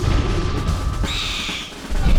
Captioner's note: drumming music; owlbear screeches